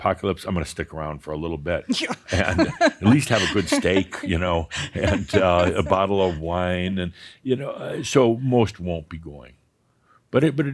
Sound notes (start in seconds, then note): 1.9 she chuckles